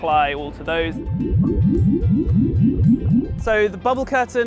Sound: pulsating sounds

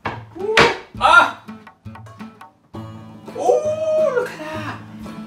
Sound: exclaiming

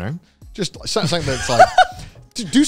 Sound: laughs

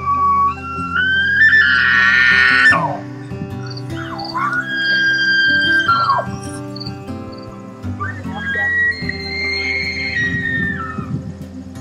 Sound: sounds of elk bugling

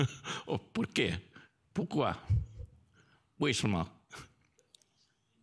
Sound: speaks in foreign language

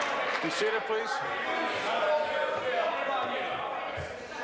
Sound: applause

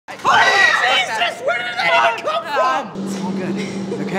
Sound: panicked screaming; anxious giggling

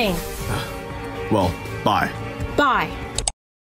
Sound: out of breath

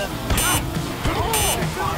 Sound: beep

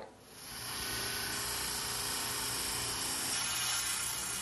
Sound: saw whirring

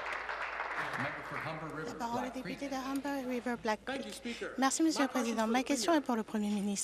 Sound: applause

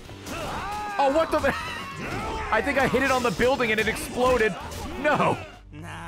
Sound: laughs

